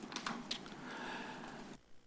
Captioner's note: clicks tongue